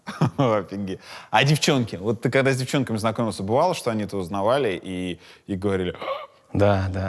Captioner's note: gasps